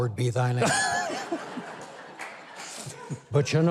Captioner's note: Mike laughing; audience laughing